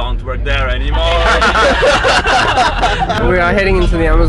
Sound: laughter

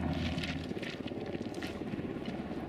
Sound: helicopter sound

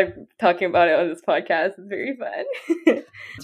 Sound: laughs

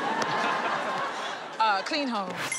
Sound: laughing

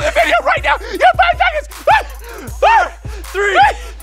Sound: exclaiming

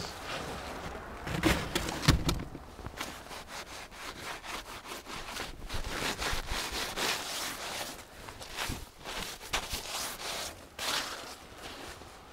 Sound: sound of igloo being made

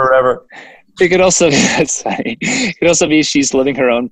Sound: laughs

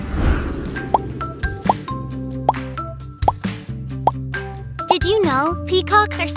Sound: text popping; upbeat music

